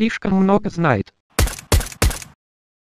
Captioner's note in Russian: выстрел, выстрел, выстрел